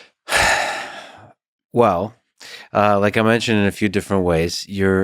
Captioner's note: sighing